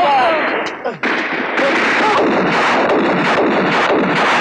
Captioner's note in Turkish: Silah sesleri